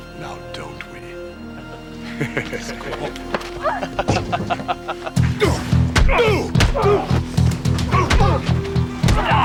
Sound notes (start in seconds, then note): 2.0 chucklin